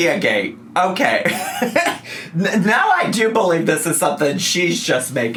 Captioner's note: laughs